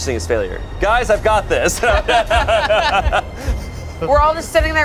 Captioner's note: group laughs